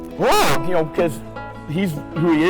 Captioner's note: yells out in surprise